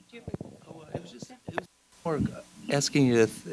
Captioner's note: laughs; gentle speaking